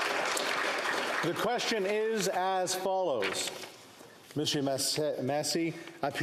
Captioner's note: applause